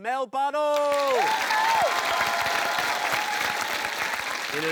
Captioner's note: cheering, applause